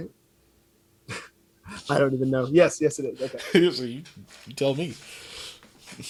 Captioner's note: laugh